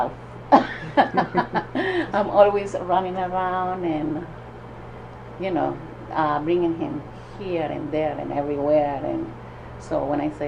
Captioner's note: laughs